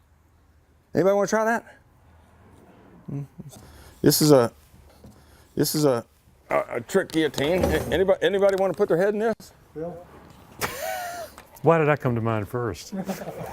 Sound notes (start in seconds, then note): 10.6 laughter